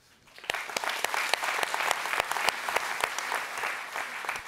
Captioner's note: audience applauds